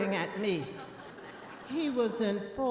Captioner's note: audience laughing